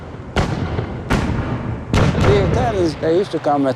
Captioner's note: gunshot fire